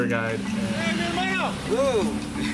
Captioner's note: speaks in foreign language